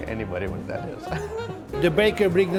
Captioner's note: chuckles